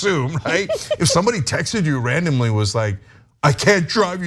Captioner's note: laugh